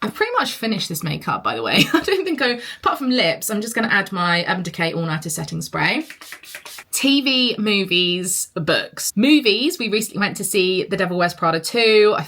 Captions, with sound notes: I've pretty much finished this makeup by the way. I don't think I... Apart from lips, I'm just gonna add my Urban Decay all nighter setting spray. (bottle sprays) TV, movies, books. Movies, we recently went to see the "Devil Wears Prada 2".